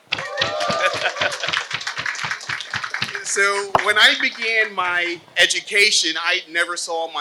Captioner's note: applause